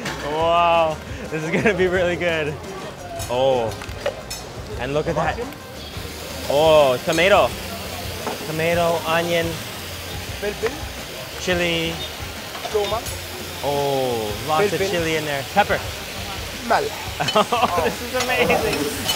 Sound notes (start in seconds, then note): 16.3 speaking in foreign language; 17.2 laughs